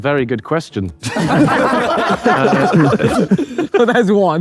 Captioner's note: group laughs